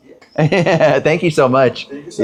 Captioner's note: Rocky laughs